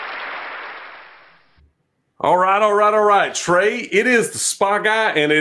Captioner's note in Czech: Potlesk